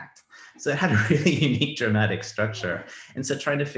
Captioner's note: laughs